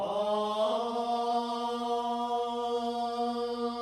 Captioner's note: chanting